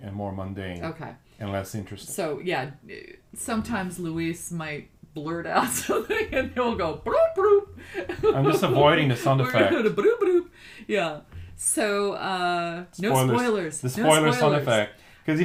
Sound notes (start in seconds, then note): 7.8 laughs